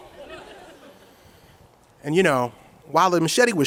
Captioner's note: audience chuckles